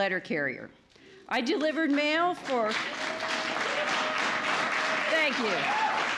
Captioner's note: applause